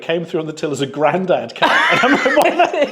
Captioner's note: laughs